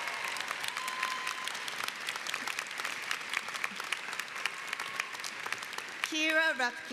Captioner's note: applause